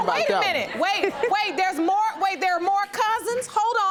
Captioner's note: chuckling